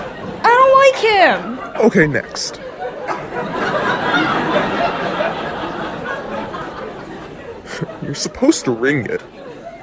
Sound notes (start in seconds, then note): 2.7 audience shrieks even louder; 7.9 chuckles